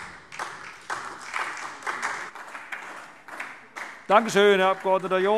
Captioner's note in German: Beifall SPD